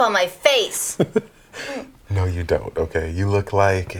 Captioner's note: chuckles